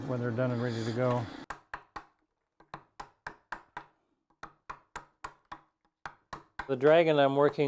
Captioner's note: chisel tapping